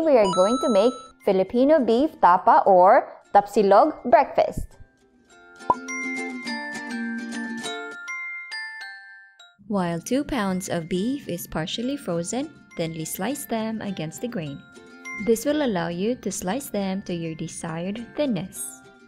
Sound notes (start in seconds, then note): 5.6 bottle pop